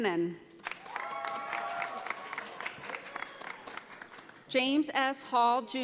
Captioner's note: audience applauding